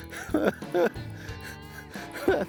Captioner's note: chuckles